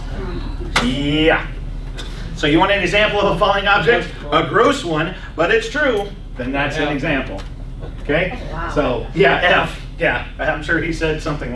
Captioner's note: laughs